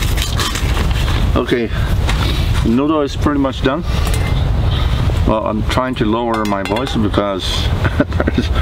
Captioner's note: laughing